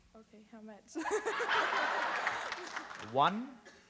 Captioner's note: laughs